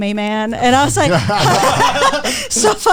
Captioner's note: all laughing